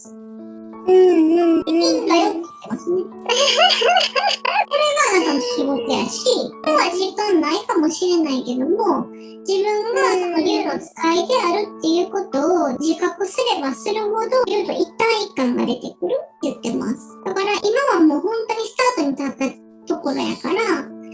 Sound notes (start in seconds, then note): 3.2 laughs